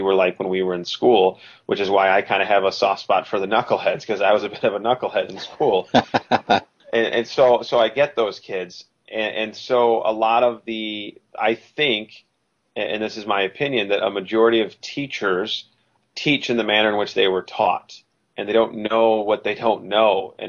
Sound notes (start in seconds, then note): 5.8 laughs